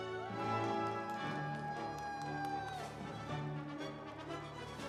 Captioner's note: audience cheering; instrumental music